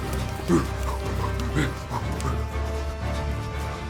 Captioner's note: neanderthal grunting